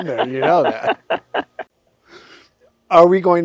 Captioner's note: both laughing